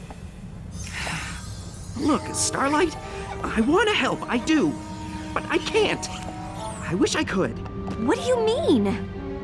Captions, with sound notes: [sigh] Look, Starlight, I want to help, I do. But I can't. I wish I could. What do you mean?